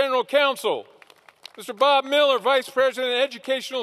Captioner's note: applause